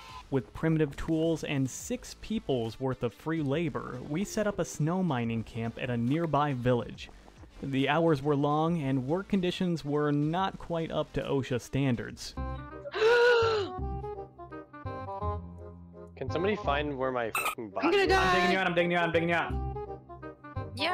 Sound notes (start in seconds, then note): 12.3 silly music playing; 12.9 gasp